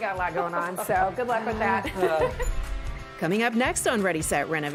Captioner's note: laughter